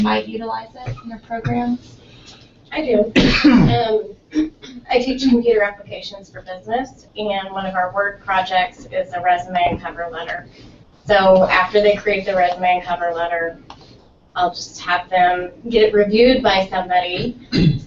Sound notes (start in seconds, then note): 3.1 cough